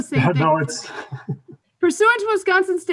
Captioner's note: laughs